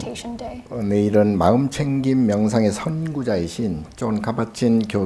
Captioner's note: speaking Korean